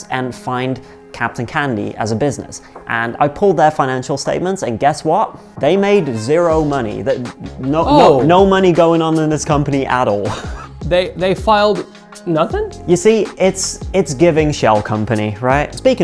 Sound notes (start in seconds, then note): 10.4 laughs